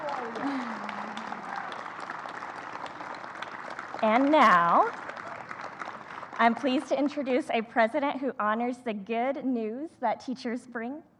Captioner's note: applause